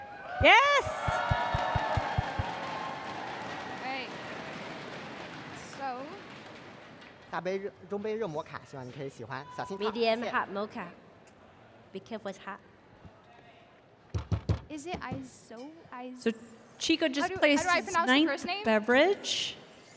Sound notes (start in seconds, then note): 7.4 cheers and applause